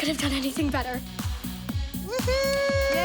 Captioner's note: whoops